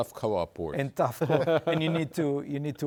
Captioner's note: guest laughs